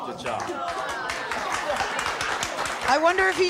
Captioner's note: audience applauding